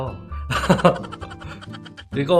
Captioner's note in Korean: 웃음